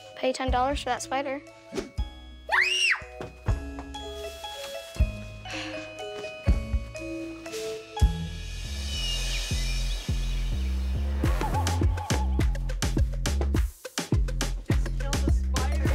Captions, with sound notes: - Pay you $10 for that spider. (girl screams) (slow music) (upbeat music)